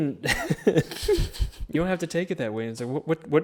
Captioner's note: laughs